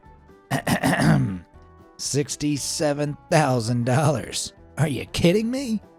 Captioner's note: clears throat